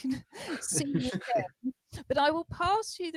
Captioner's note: laughter